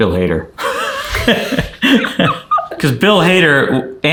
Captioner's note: chuckling